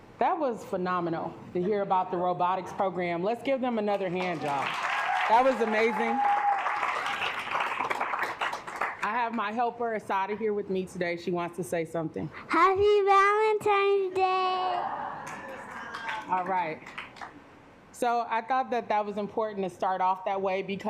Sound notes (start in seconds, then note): 6.7 assembly clapping; 14.6 assembly cheering; 16.8 assembly clapping